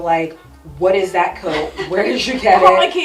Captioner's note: laughs